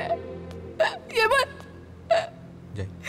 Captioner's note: Crying